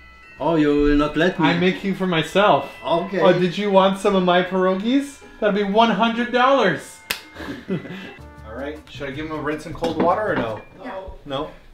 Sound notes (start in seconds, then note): 7.1 slap